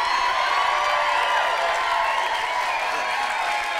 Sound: cheering and applause

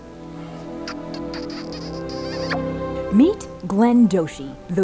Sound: imitates lips smooching

